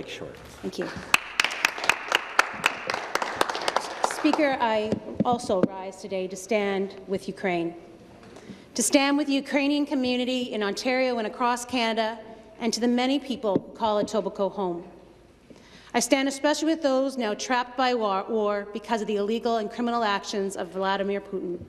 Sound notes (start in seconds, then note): 4.8 some Applause